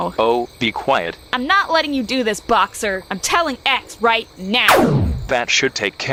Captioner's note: laser